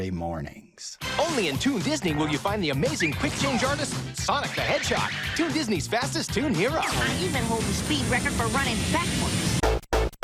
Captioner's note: The Adventures of Sonic the Hedgehog commercial plays